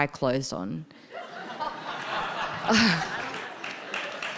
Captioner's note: audience laughing; audience applauding